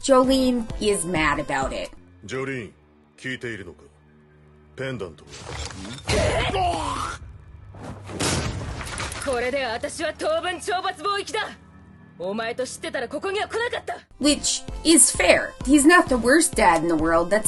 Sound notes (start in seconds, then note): 6.1 fist punches; 8.5 spits